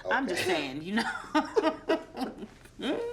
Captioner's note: both laughing